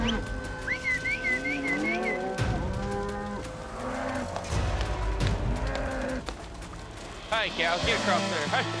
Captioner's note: whistling